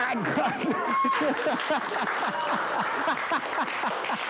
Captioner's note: clapping and laughing